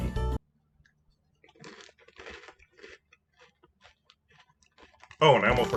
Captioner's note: noises of crunch